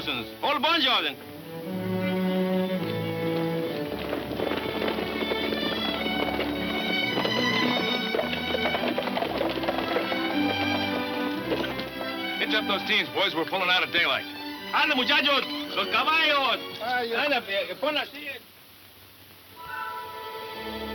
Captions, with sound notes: (gentle music) (horses gallop) - Hitch up those teams, boys. We're pullin' out at daylight. (speaks in Spanish) (gentle music)